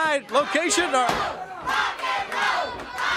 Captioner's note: crowd cheering